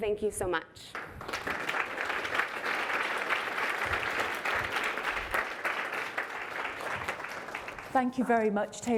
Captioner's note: applause